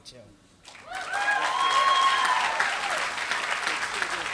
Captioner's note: applause